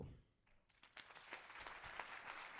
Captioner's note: applause